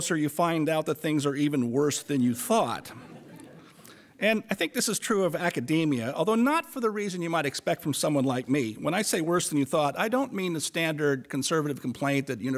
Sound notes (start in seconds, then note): 2.8 audience laughter